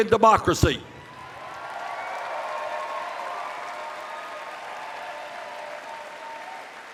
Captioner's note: cheers